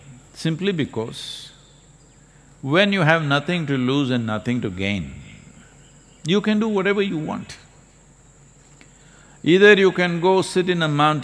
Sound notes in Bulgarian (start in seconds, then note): none